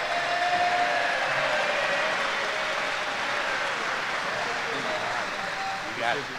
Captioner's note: applause & Cheers